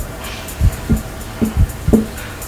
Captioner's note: tapping